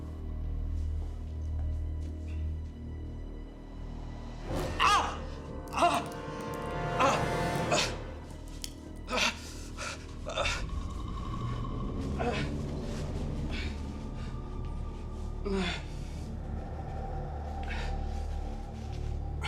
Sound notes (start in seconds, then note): 4.9 yelps; 5.6 gasping